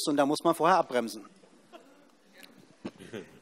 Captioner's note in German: Heiterkeit Ministerin Eva Kühne-Hörmann